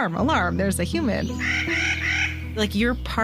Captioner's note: nutcracker call